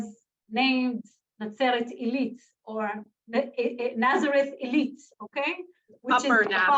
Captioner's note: Hebrew